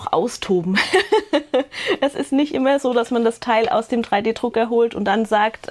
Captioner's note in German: gelächter